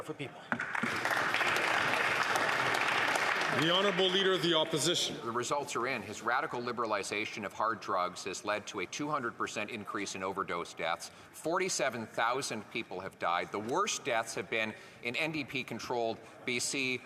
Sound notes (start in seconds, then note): 4.1 some Applause